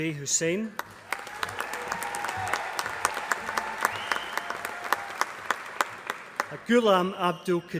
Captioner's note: applause